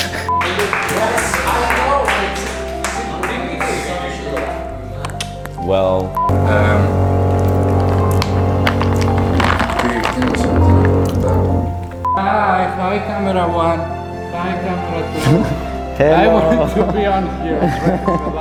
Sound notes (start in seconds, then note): 6.3 still construction noise